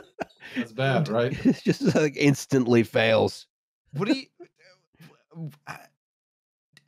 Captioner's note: laughs; stammers